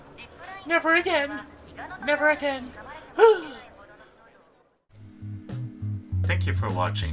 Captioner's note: japanese announcement